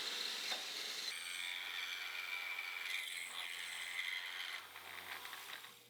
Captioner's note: machine whirring and buzzing